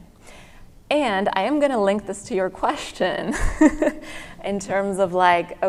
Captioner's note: laughs